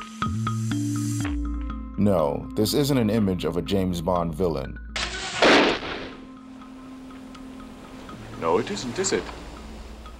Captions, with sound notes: No, this isn't an image of a James Bond villain. [shotgun blast] > No, it isn't, is it?